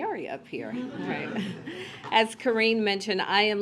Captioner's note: laughter